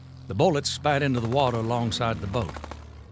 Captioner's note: gunshots firing